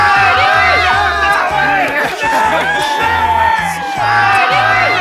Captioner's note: cheering loudly